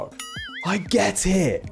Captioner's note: bell dinging